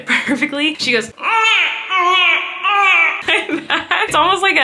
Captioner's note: imitates Maisy's cry; chuckles